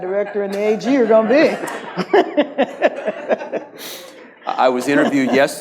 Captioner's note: audience laughs